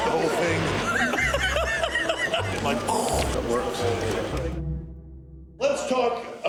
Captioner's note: laugh